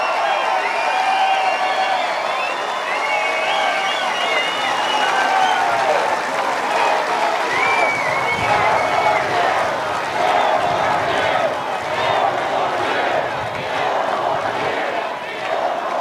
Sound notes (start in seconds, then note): 5.1 cheers and applause